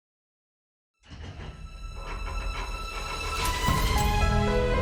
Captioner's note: vault door clanking; light mysterious music